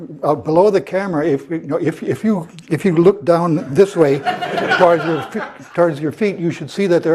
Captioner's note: laugh